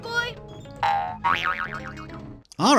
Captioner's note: obnoxious boinging continues